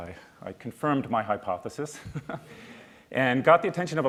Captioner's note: laughs